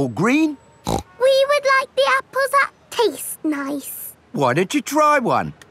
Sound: snorts

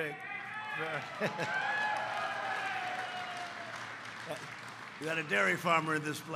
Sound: applause

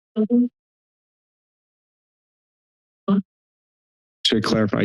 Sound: pause

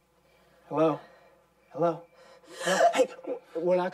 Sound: moans Softly; gasps

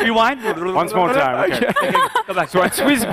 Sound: blabbering

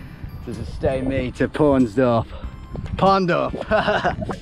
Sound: laughing

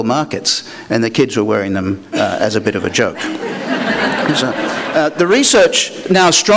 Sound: laughter

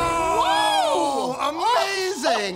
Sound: laughs

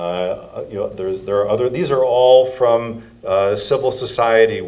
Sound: none

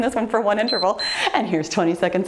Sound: timer beeps

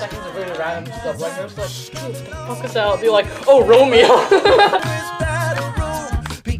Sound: laughter

